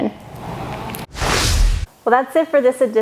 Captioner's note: graphics whooshing